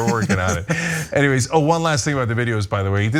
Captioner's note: laugh